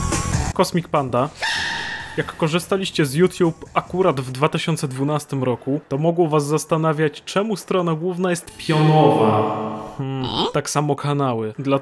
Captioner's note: sneeze